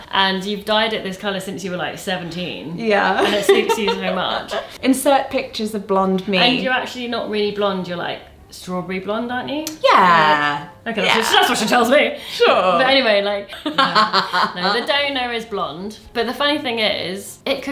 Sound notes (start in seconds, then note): 13.6 laughs